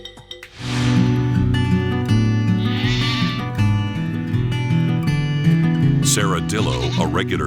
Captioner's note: bright music; goats bleating